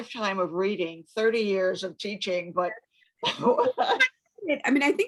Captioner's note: laughs